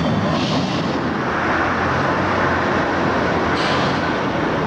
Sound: trolley humming

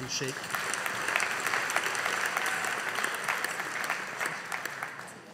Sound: audience applauding

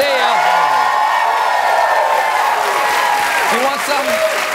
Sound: cheers

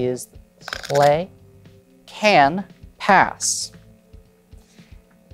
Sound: cards riffling

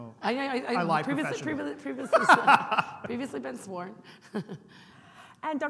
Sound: laughing; laughing

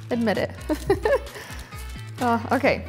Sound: laughs

